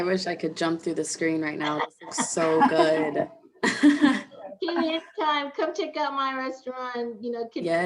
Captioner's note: laughter